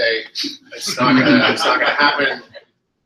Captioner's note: laughter